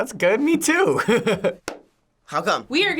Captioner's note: chuckles; claps